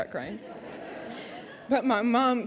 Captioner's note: audience laughs